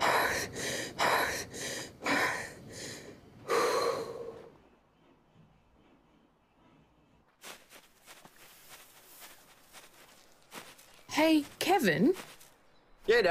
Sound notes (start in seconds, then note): 0.0 panting loudly; 3.5 exhales sharply; 7.2 rustling